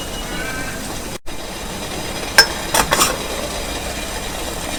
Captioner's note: lid rattles